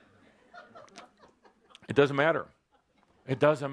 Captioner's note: laughter